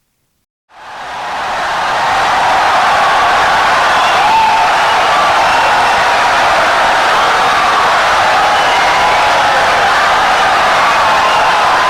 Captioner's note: wild applause and cheering for 17 seconds